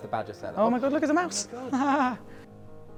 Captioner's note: laughs